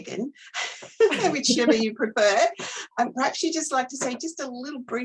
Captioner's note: laughter